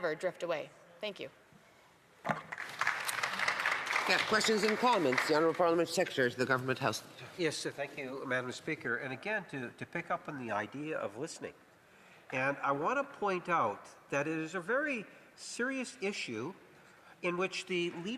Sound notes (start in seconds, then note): 6.6 applause